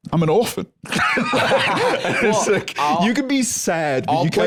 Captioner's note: laughs